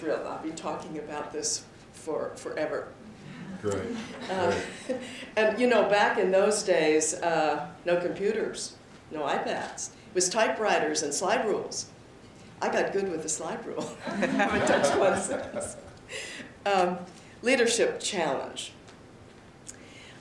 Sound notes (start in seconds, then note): 3.3 chuckles; 3.4 laughter; 13.8 laughter; 15.5 chuckles